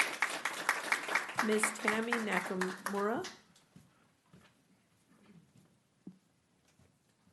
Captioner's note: clapping